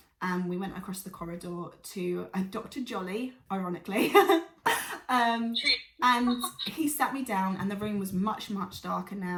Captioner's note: laughs